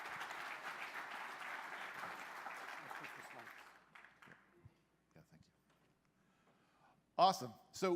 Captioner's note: applause